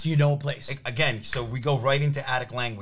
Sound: snaps fingers

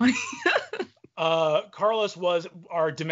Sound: laughing

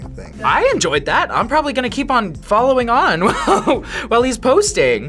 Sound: laughs

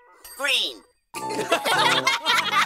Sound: laughing

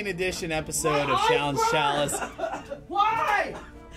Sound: coughs

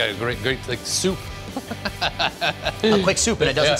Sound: laughs

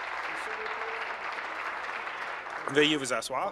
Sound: applause

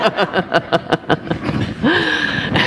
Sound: laughter

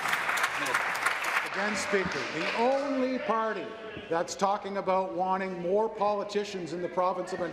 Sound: applause

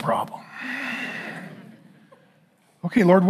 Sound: congregation laughing

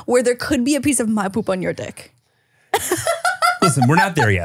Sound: laughs

